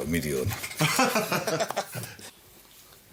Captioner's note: all laughing